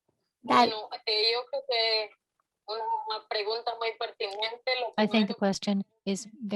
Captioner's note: speaking in Spanish